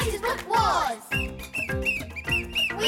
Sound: whistle blowing

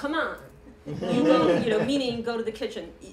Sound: laughter

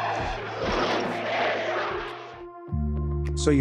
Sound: violent death noises

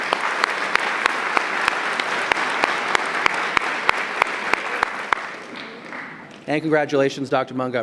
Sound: applause

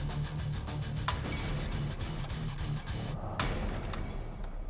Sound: clanking

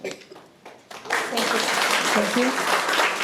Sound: audience clapping

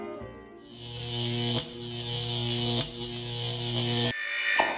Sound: logo buzzing

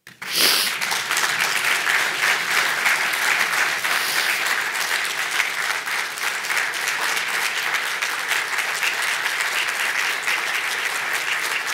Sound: applause

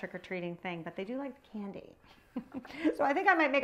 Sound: chuckles

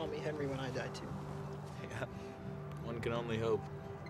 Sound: chuckles

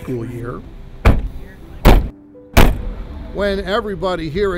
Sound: car doors banging

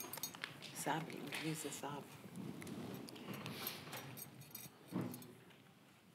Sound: speaking in foreign language

